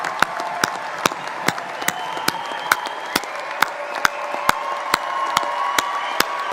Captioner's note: cheering; applause